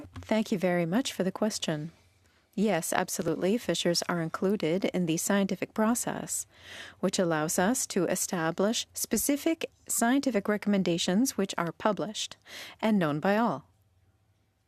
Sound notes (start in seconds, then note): 3.9 speaking French